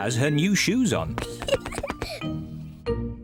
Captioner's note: giggles